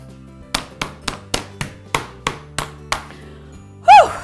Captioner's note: mallet pounding